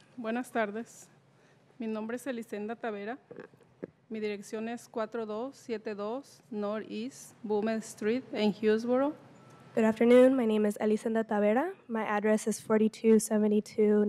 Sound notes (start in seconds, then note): 8.9 speaking in foreign language